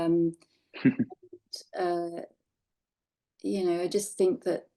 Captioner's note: laughing